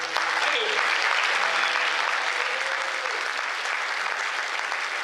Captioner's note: cheers